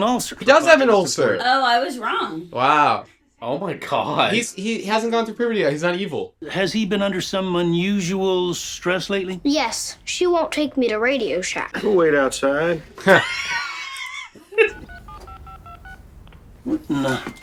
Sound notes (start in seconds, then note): 12.7 laughs